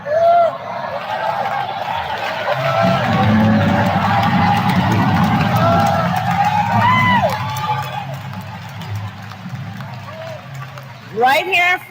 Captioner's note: applause